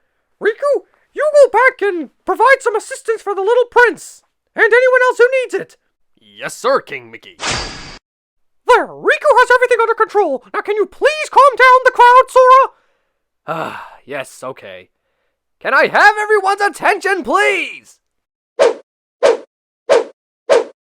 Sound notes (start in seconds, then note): 13.4 sigh; 18.5 woooooosssshhhhh